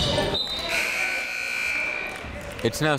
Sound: whistle

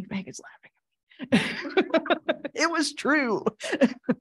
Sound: audience laughing

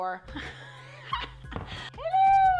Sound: laughing

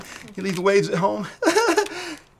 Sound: laughter

